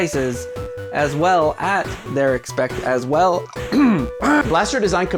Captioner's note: clearing throat